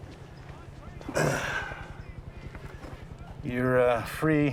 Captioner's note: sighs